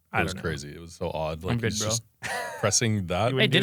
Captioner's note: laughs